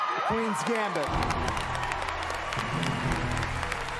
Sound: applause

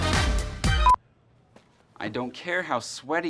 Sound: loud beep

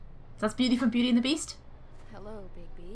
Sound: none

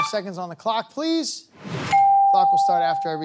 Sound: bell dings

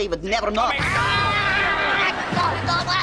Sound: arguing; screaming

